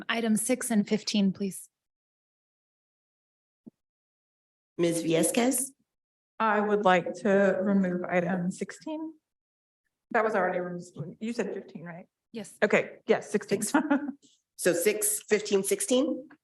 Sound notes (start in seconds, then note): 13.6 chuckles